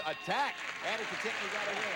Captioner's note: audience applauding